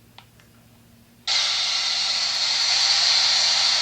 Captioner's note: jumping static